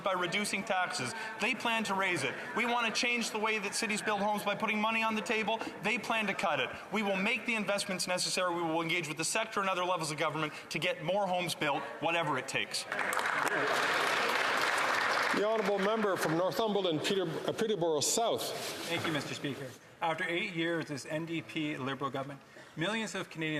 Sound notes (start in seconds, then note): 16.9 some Applause